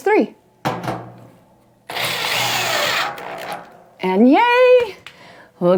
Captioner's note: machine whirring